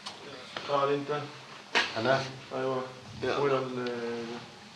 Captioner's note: Arabic spoken audio